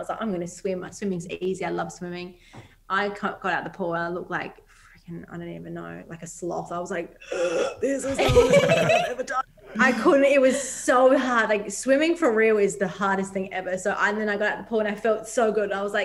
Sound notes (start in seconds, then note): 7.2 gasps